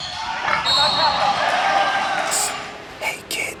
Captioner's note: whistle blowing